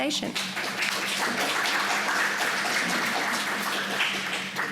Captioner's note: audience applauding